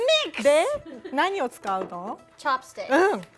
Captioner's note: speaking Japanese